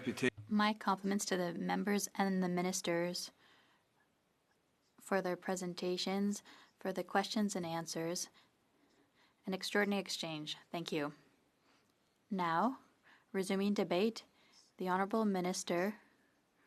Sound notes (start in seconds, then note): 2.9 speaking French